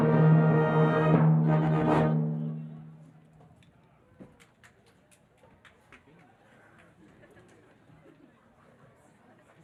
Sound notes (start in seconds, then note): 0.0 elegant music; 4.6 person applauding